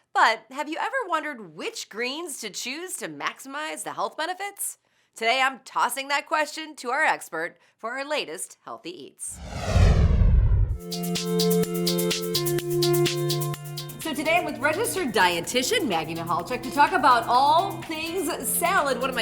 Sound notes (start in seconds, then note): 9.3 whoosh; 10.8 upbeat music